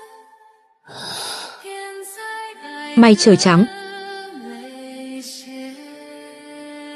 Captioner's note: thở dài